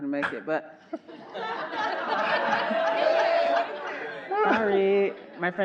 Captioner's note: everyone laughing